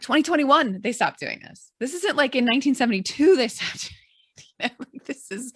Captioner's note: chuckles